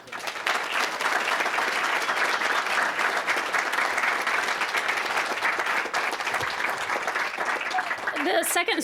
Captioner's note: applause